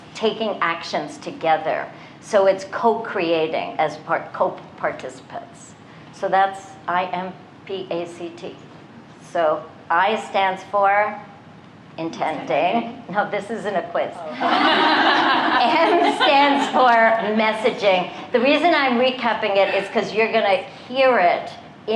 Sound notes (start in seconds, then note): 14.3 laughter